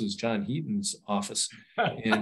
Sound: laughs

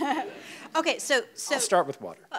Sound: audience laughs

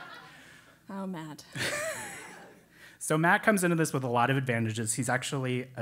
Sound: laugh

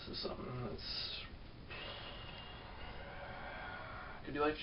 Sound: exhales

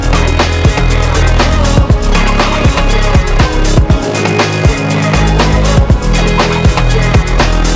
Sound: vocalizing

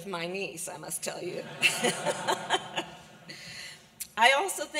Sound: laughter

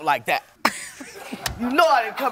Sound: laughs

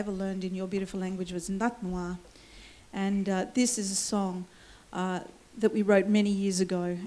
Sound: foreign words

